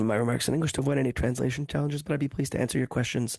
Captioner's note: speaking French